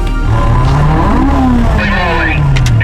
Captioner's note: engines revving